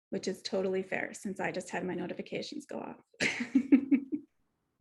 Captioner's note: laughs